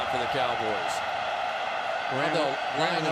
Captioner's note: cheering